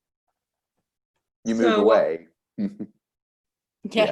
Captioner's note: chuckles